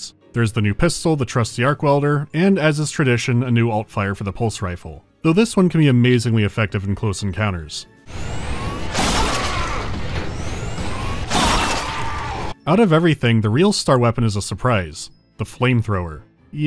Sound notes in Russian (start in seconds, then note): 8.1 пах